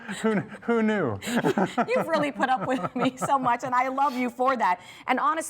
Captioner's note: laughs